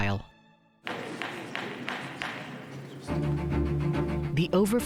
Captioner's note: judge banging gavel